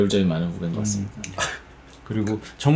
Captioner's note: chuckle